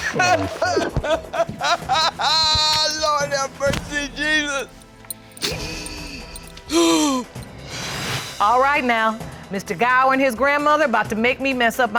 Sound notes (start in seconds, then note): 0.0 grandmother sobbing; 6.7 grandmother gasps